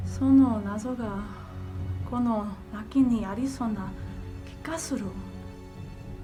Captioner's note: Michiko speaking in foreign language